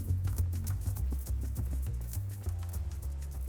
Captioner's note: footsteps